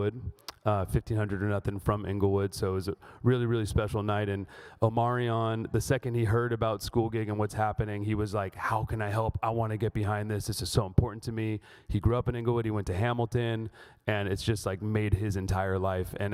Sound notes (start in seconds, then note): none